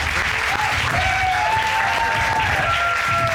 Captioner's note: cheering